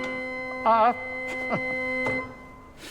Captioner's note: laughing